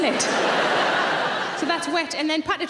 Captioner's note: audience laughs